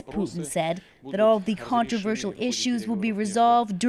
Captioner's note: speaking Foreign Language